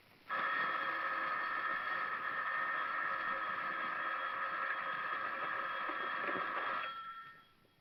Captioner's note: phone ringing